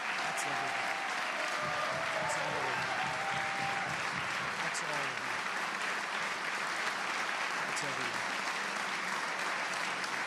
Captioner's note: applause